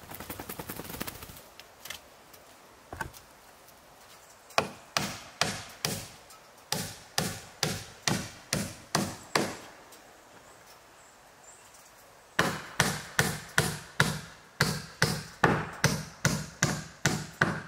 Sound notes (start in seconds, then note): 0.2 dog shaking; 4.6 hammering